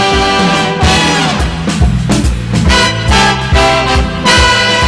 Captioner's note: audience applauding